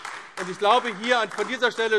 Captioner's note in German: Beifall AfD